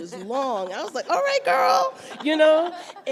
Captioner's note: everyone laughs